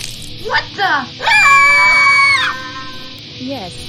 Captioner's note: both sceaming